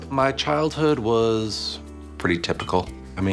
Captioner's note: none